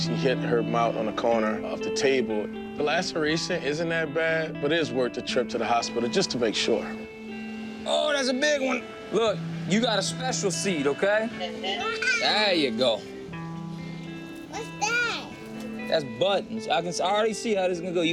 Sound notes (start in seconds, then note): 11.7 laughs